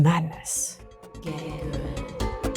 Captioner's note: ghostly voice